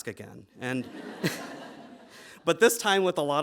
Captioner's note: audience laughing